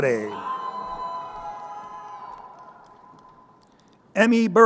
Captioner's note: crowd cheering